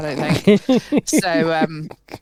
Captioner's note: laughs